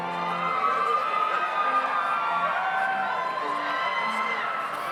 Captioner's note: audience cheers